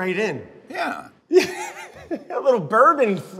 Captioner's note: laughs